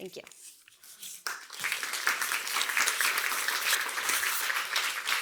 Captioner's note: audience applauds